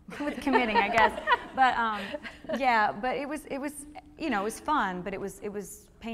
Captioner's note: laughing